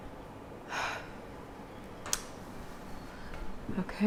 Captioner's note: Leona sighs